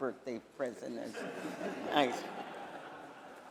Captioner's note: laughter